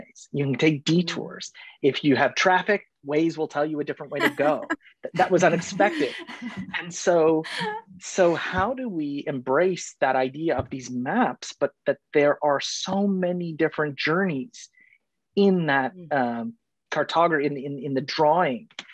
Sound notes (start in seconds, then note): 3.6 people laughing